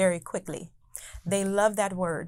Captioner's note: laughing